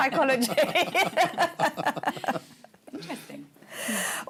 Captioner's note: laughter